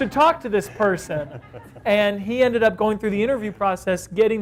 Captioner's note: off-screen Laughter